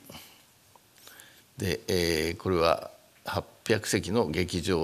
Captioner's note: speaking japanese